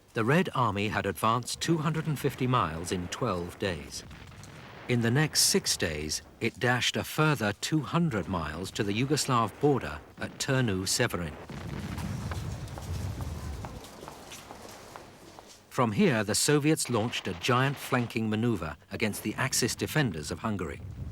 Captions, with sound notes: The Red Army had advanced 250 miles in 12 days. In the next six days, it dashed a further 200 miles to the Yugoslav border, at Turnu Severin. (explosions booming) (footsteps pattering) From here, the Soviets launched a giant flanking maneuver, against the Axis defenders of Hungary.